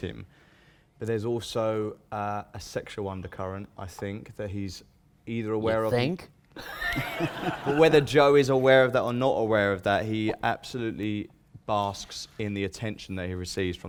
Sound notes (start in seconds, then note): 6.6 laughter